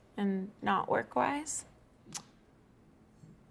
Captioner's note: clicks tongue